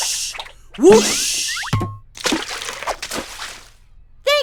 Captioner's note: water splashes